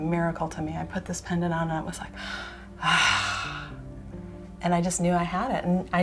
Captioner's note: sigh of great relief